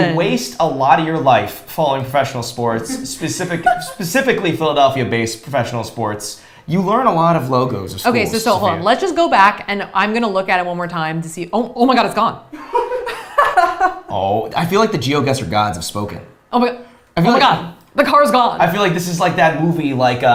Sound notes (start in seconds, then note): 12.6 both laughs